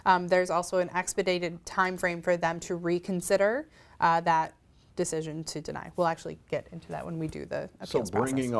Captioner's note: none